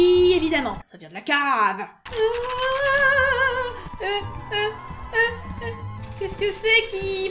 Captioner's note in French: cri de panique